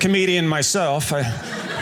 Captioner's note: audience laughing